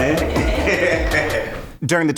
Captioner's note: chuckling